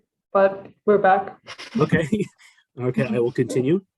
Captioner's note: laughter